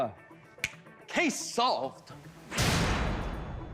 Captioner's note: snaps fingers